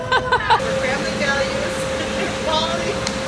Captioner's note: giggles